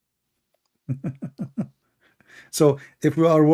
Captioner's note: Ketawa